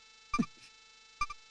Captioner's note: alert